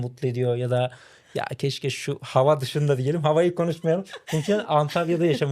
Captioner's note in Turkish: kahkaha